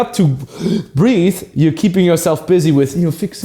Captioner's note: gasps